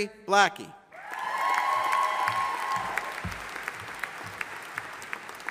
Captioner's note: audience applauding